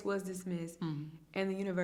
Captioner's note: hums in agreement